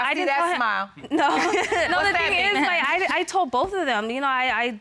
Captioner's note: laughs